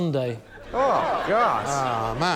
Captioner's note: laughter